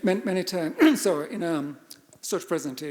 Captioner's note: coughs